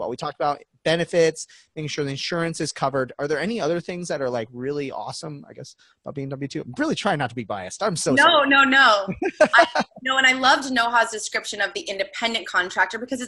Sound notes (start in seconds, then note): 9.1 laughing